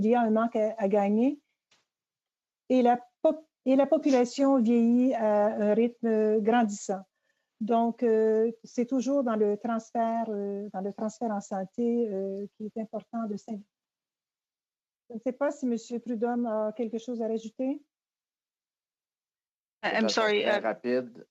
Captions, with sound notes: THAT WOULD BE A GREAT HELP. >> [ Speaking French ]